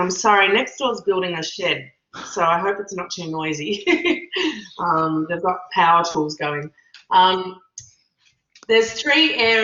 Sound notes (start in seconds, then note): 3.6 laughs